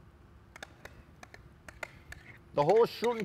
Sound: bowl scrapes

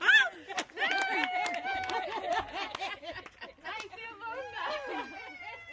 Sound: laughing and clapping

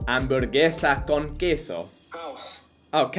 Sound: foreign language

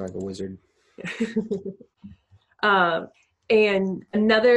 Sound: laughing

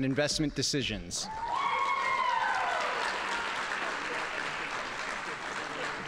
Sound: audience applauding

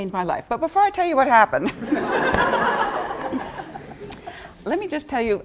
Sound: laughter

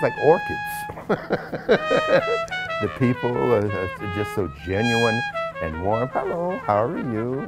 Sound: laughs

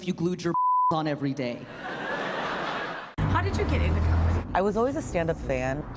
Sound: laughter

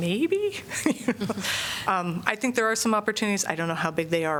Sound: laughter

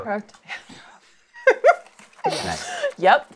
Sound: laughs

